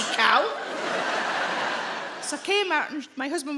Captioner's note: audience laughing